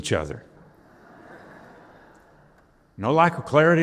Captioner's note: audience laughing